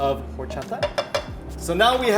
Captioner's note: Megan taps cup